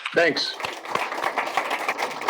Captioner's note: applause